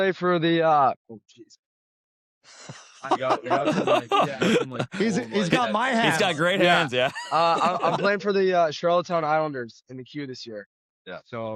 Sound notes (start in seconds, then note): 2.6 laughter